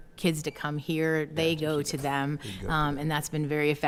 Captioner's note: speaking quietly